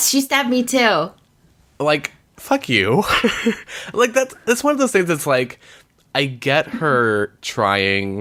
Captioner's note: laughs